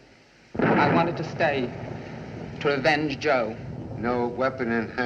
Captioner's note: thunderclap